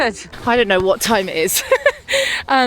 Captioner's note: laughs